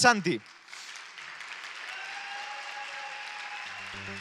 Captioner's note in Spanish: Aplausos